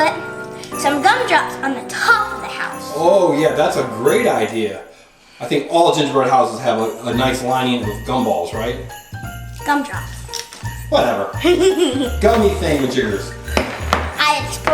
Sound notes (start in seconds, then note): 11.4 giggles